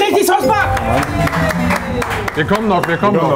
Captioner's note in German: Jubel, Applaus